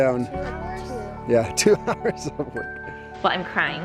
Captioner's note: laughs